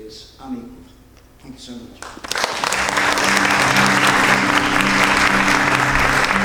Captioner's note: audience applauding